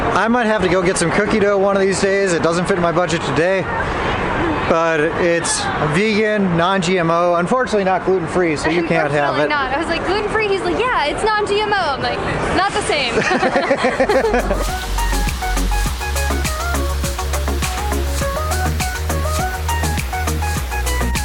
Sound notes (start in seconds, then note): 13.2 both laugh; 13.9 upbeat electronic music